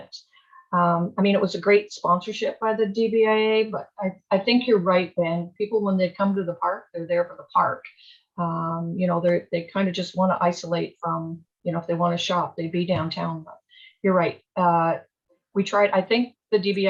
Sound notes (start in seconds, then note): none